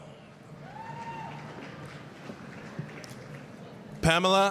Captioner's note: applause, cheering